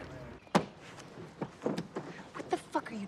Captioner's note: thud